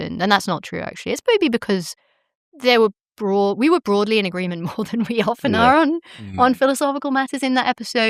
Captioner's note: chuckles